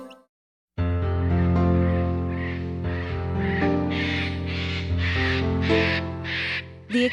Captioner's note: bird sounds